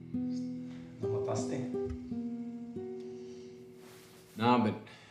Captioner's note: man speaking in foreign language